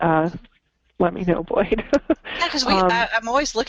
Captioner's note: laughs